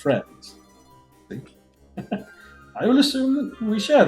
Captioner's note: chuckles